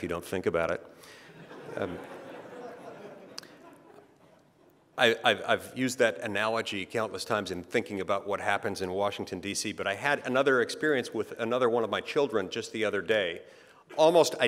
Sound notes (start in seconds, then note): 1.2 laughter